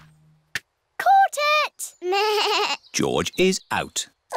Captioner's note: bleats